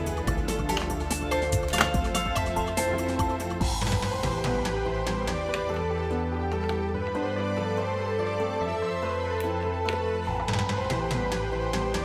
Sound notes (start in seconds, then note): 0.3 objects clacking